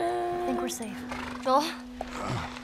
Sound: horse brays; Joel groans

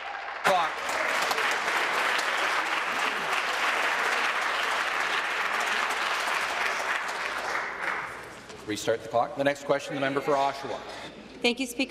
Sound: applause

